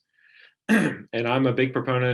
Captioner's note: clearing throat